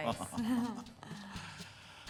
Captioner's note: chuckling